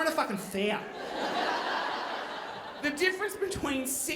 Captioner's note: audience laughing